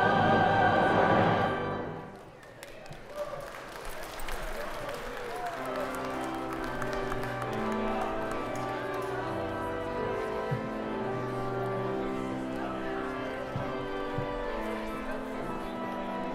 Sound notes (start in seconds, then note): 1.9 congregation applauding; 2.8 congregation cheering; 5.5 bright organ music; 6.3 congregation chattering